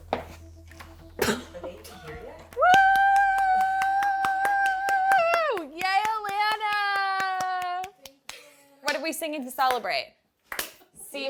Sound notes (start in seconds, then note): 2.5 cheering